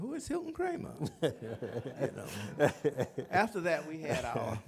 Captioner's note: laughter